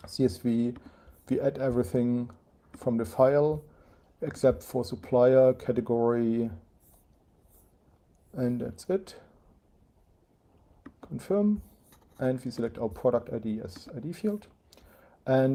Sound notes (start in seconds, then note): none